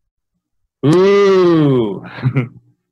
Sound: laughs

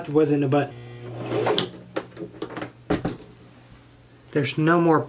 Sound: sewing machine

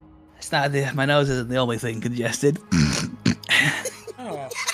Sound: sniffs heavily; laughs

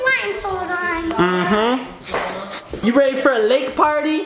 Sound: snickering

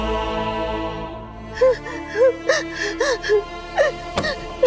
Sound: sobbing

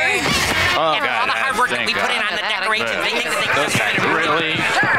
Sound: grumbling

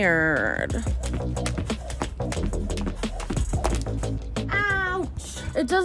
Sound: rope hitting ground

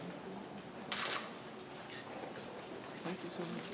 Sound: camera shutter clicks

